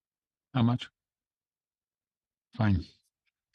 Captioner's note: speaking French